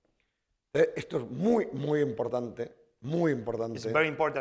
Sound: speaking spanish

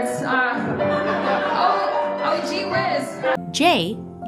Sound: audience laughing

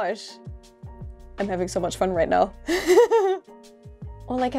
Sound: laugh

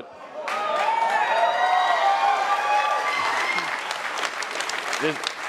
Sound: attendees cheering and applauding

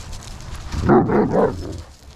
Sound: dogs growl

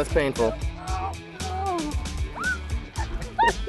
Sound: groaning; laughing

